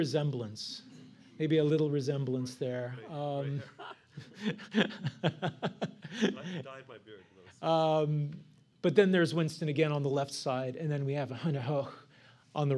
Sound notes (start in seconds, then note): 3.5 laughter